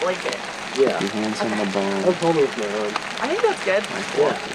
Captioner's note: light chattering